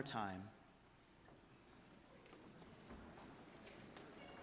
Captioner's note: audience talking